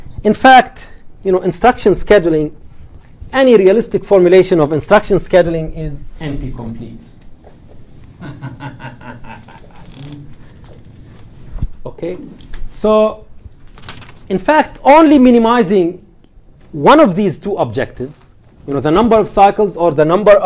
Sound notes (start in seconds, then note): 8.2 brief laughter